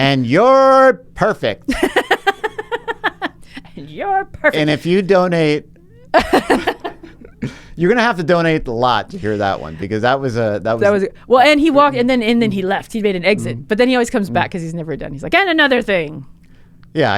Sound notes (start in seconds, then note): 1.7 laughs; 6.0 both laughing